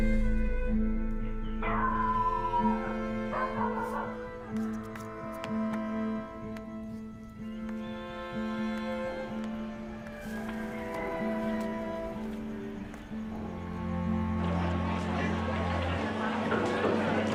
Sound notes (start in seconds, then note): 0.1 dog barks; 8.9 rooster crows